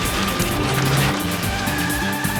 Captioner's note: brakes screeching